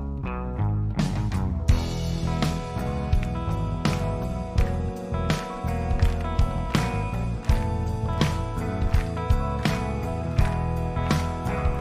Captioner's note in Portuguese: aplausos